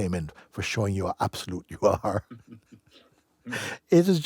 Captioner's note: laughter